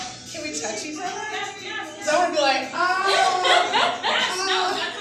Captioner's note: laughter